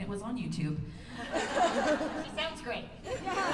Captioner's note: laughter